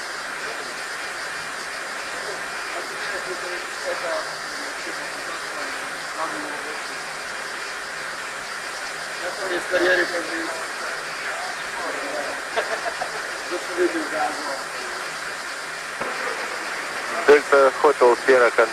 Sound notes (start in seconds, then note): 12.0 laugh